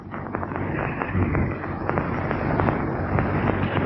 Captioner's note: fire crackling